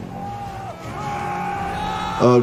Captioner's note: passenger screaming